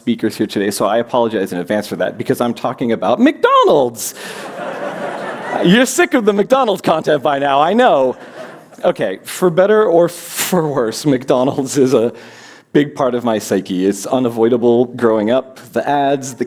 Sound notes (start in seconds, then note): 4.3 laughter